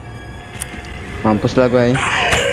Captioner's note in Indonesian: click